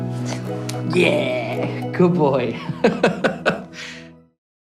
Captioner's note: laughing